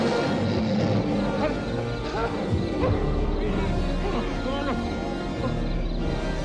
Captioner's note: tense music rises; Hezekiah panting; posse yelling distantly